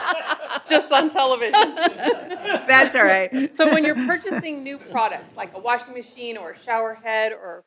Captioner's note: laughter